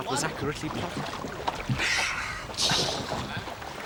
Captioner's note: finch laughs